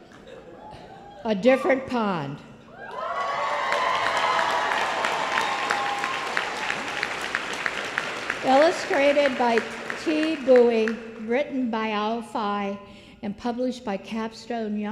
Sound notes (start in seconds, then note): 6.0 applause